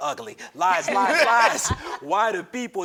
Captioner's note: laugh